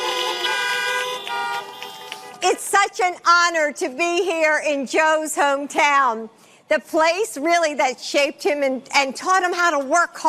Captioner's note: horns honking